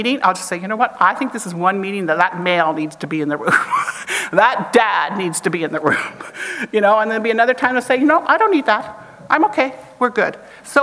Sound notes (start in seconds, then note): 3.5 chuckles